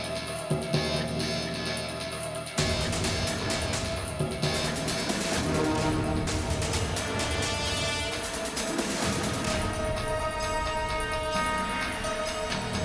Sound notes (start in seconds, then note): 0.2 drum; 4.7 gunshot